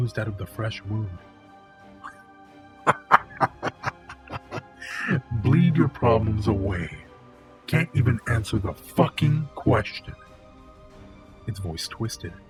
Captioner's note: laughs